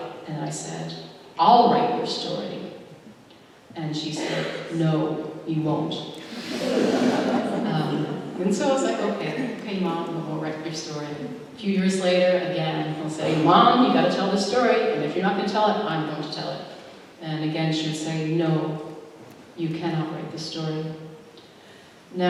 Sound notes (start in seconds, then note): 6.4 laughter